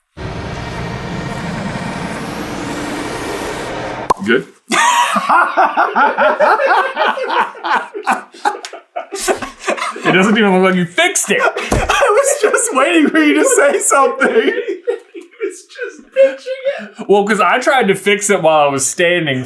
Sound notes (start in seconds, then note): 0.2 suspense music; 4.8 team laughter; 11.9 laughing; 15.0 laughing so hard